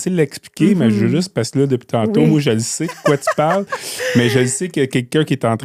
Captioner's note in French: rires